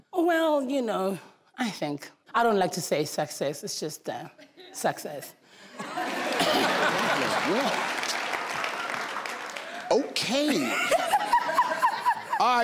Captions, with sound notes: - Oh, well, you know, I think I don't like to say success. It's just that, success. (crowd cheering) - Okay, all right darling